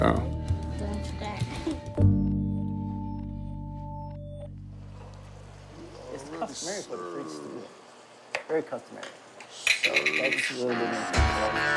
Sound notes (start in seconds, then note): 0.2 chuckles; 5.6 chatter